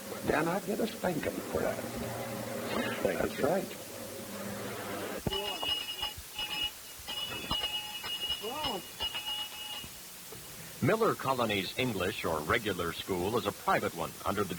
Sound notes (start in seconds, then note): 5.2 bell ringing